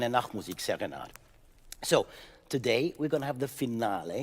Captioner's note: speaking in French